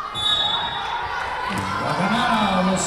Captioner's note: whistle blowing